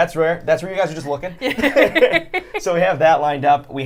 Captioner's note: laughter